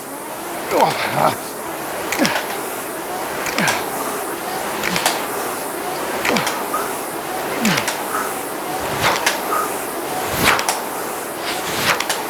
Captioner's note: grunting